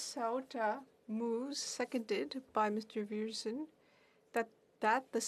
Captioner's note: speaking French